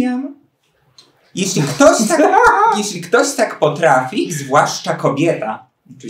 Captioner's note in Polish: śmiech